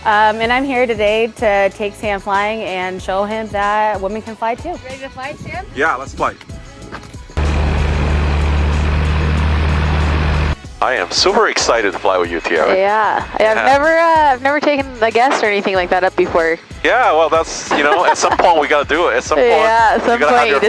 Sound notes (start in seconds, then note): 7.3 plane engine roaring; 17.7 chuckles